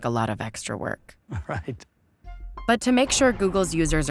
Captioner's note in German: lacht